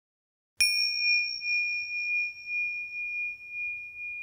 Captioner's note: bell chiming